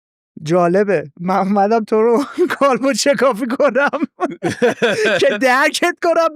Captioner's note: laughs